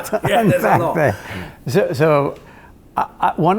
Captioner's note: cross talking and laughing